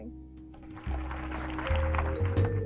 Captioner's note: applause